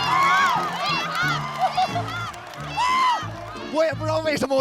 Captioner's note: haha